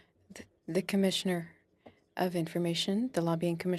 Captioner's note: speaking French